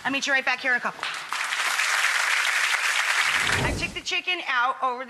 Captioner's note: audience applauds